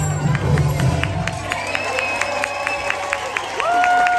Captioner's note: audience cheering